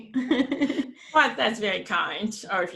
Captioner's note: laughs